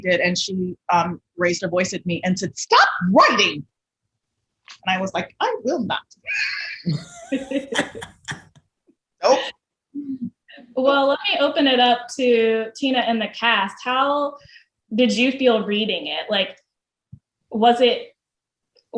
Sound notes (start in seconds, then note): 6.8 both laugh